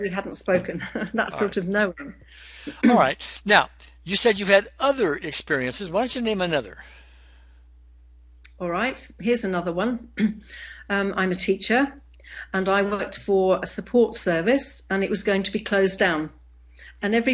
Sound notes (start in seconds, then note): 0.6 chuckles; 10.2 clearing throat